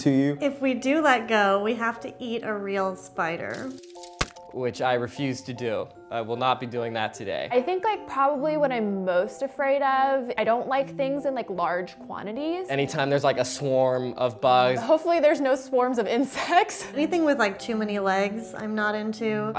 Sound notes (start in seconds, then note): 4.1 splat